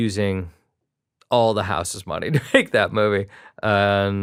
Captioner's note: chuckles